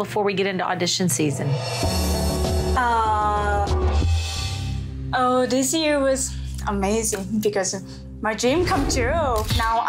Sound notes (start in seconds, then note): 3.0 stammers